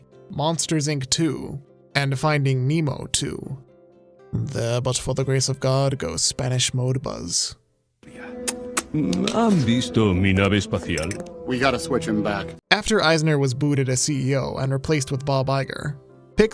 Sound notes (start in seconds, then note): 8.4 kisses; 9.0 speaking Spanish